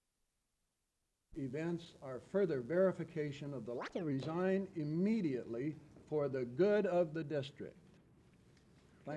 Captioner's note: camera noise